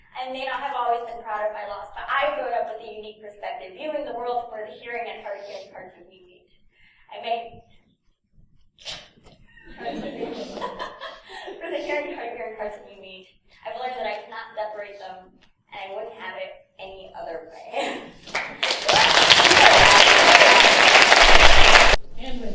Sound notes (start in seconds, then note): 9.4 laughs; 18.2 applause